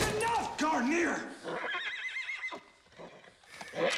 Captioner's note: gunshots firing; horse neighing